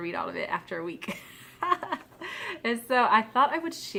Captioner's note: laughs